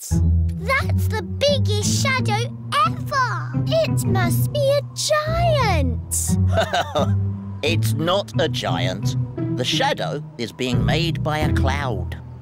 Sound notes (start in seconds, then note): 6.4 laughs